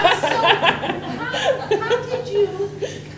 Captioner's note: everyone laughing